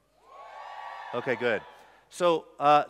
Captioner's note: cheers